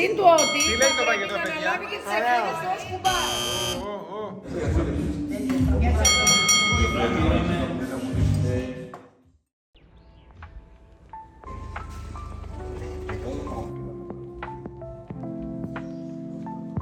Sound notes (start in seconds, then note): 3.0 buzzer blaring; 6.0 boxing bell clangs repeatedly; 9.8 early morning birds chirping